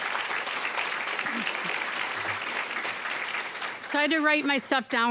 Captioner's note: applause